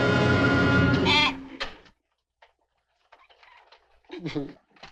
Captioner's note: goat squeals; Papers groans